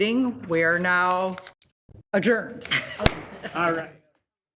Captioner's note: laughs